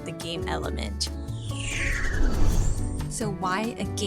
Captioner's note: whoosh transition